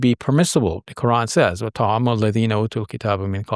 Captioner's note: speaking Arabic